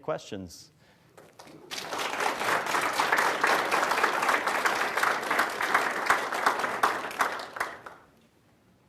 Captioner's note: applause